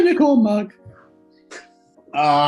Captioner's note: laughs